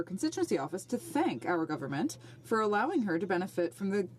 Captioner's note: speaking French